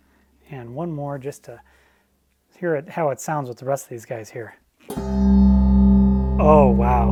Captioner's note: bells ring